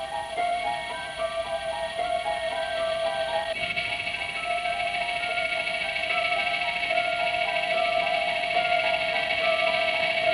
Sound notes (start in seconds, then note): 0.2 eerie music; 3.9 low frequency sounds emitting